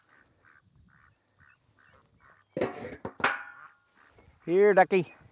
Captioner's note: duck quacking